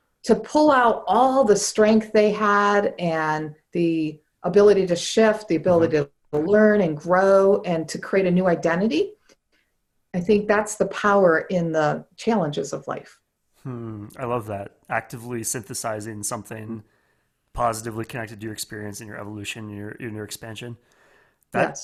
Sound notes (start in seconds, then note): 13.6 hums